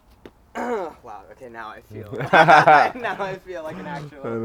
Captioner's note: laughs